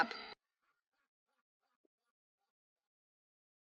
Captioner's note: hoppy laughs